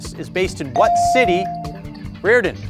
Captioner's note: bell ringing